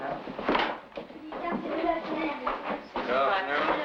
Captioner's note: children chattering